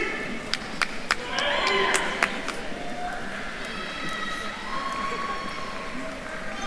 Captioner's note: attendees cheering and applauding